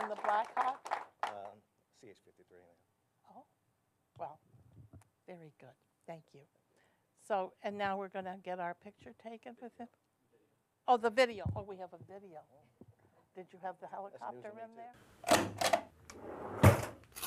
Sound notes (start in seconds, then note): 0.0 applause